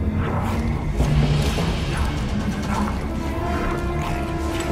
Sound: alien-like noises

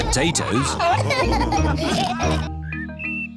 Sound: laughter

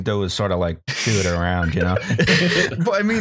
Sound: snickers

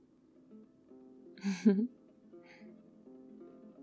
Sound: laughs

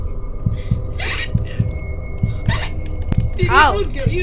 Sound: shouts excitedly; laughs

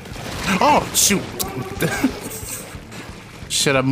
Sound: chuckles

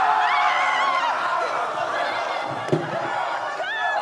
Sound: all cheering

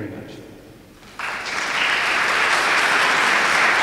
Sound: applause

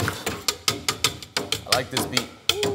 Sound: dishes clanking

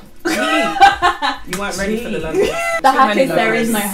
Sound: laughs

